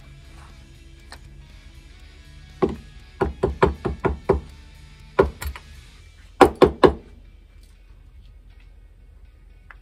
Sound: tapping/banging

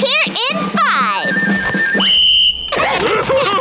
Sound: whistle blowing; Patrick laughing

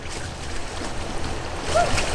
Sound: water splashing

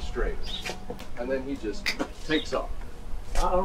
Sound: snaps fingers

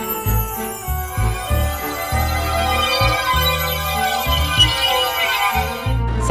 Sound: tinkling

